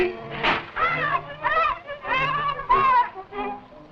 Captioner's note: parrot squawking